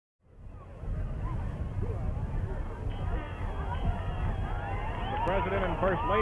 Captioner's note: crowd noise, anticipation